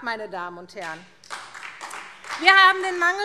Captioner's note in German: Beifall SPD